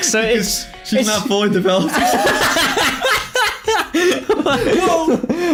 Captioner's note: laughs